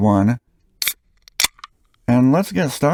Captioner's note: beer opening sound